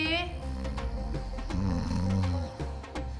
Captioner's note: snoring